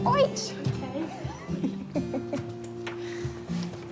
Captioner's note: chuckles